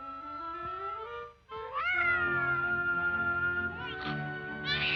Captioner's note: baby wailing